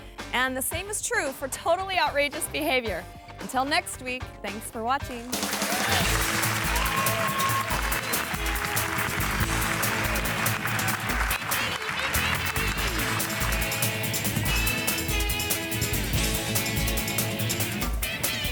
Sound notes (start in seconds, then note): 5.2 audience clapping; 6.0 upbeat music; 14.7 upbeat music continues